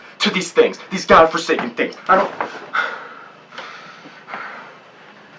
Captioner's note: huffs